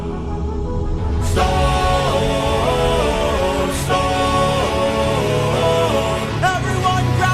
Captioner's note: storm